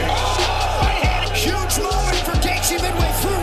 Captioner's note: 비명